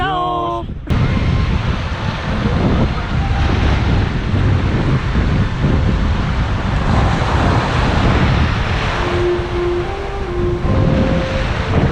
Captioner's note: noise of waves and background music